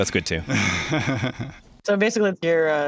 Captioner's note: laughs